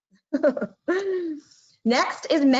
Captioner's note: laughing